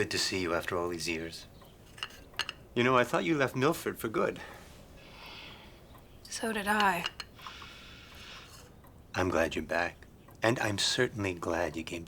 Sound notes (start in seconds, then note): 6.1 sighs